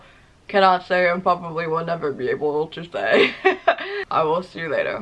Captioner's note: laughs